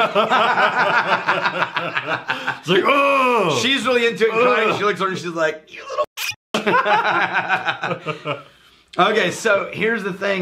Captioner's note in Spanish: riéndose